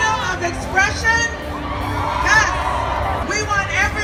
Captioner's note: crowd cheers